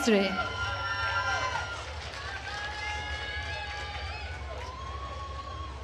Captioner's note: attendees cheering and applauding